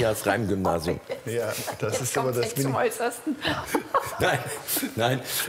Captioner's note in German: lacht